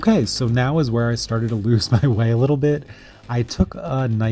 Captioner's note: laughs